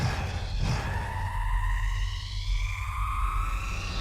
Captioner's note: suspenseful music building; machine powering up